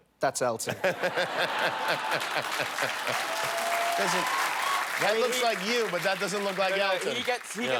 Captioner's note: laughter; cheers and applause